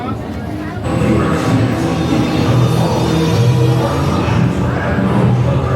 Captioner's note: roller coaster wheels thundering